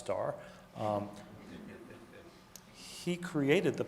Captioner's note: audience laughing